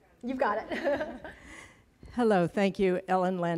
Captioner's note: presenter laughs